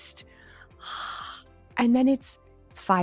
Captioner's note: exhales